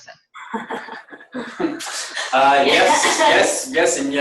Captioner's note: people chuckle